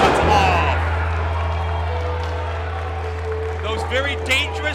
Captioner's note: audience cheers